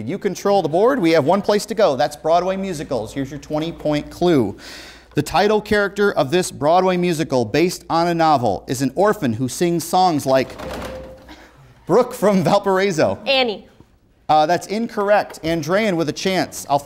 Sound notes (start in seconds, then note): 10.5 beeping